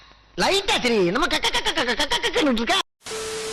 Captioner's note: imitates laugh